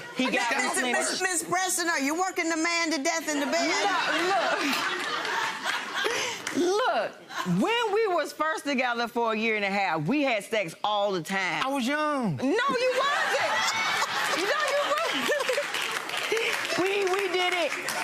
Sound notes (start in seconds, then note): 7.9 laughing; 16.8 laughing